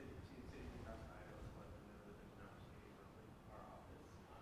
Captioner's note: audience Member murmurs